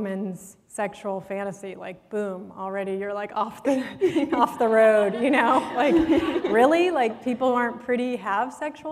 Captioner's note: laughter